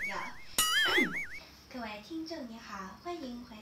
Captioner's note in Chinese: 清喉嚨